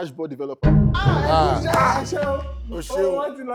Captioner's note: buzzer pressed